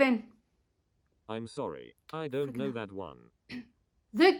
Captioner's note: computerised voice